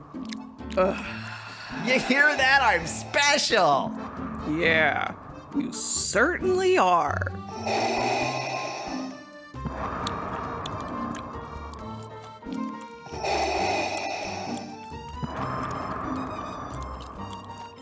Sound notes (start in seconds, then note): 7.5 sound of Vader breathing; 10.4 sound of chewing